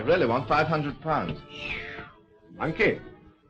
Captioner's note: whistling